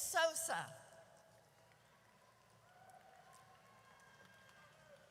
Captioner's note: audience cheers